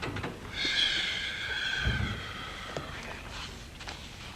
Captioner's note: Horton sighs